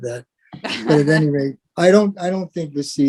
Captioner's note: laugh